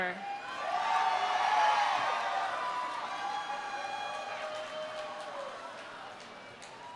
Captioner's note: audience cheering; audience applauding